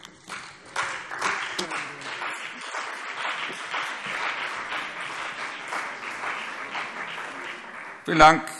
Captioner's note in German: Beifall CDU und BÜNDNIS 90/DIE GRÜNEN